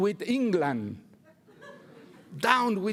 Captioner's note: laughter